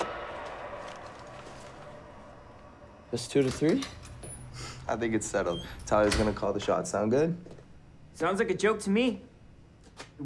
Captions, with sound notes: Best two out of three? (door opening and closing) - I think it's settled. Tyler's gonna call the shots. Sound good? - Sounds like a joke to me.